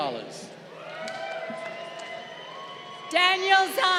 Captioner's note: crowd cheering